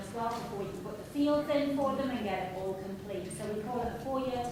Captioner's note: speaking softly